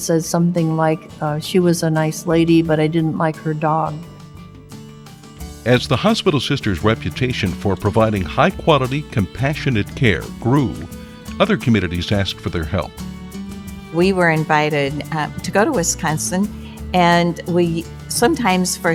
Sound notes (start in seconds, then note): 4.6 voiceover